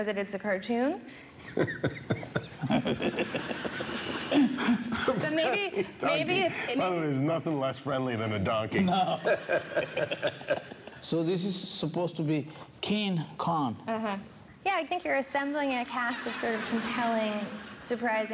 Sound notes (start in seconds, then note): 8.9 laughter